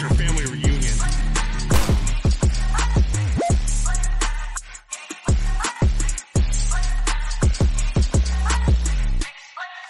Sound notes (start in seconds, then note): 1.7 gunshot